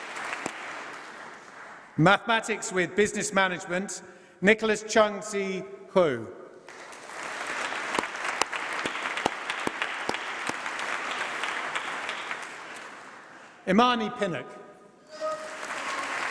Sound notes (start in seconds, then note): 6.6 applause